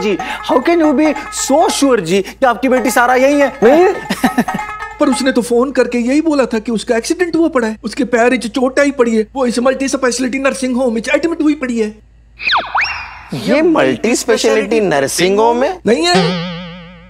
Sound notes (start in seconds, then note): 4.0 Adi laughs